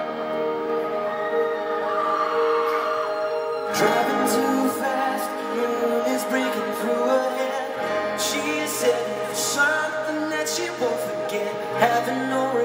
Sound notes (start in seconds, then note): 1.6 fans screaming